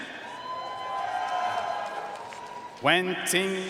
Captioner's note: audience cheering and applauding